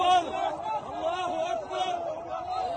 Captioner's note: chanting